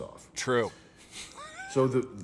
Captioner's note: laughing